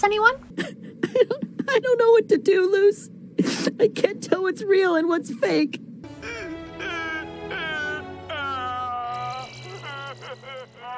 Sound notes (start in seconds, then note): 3.4 sniff